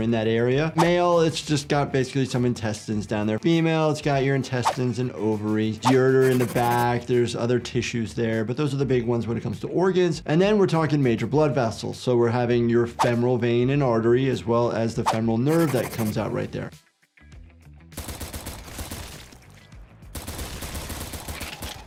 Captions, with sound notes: Male, it's just got basically some intestines down there. Female, it's got your intestines and ovaries, ureter in the back, there's other tissues there. But those are the big ones when it comes to organs. And then we're talking major blood vessels, so we're having your femoral vein and artery as well as the femoral nerve that comes out right there. (gun popping)